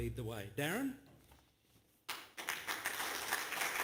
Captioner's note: applause